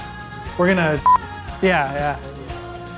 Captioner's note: audio beeps